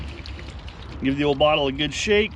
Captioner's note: liquid sloshing